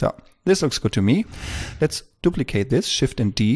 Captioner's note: whoosh